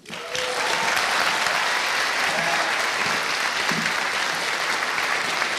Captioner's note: audience applauding and cheering